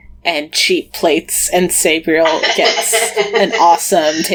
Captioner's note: laughs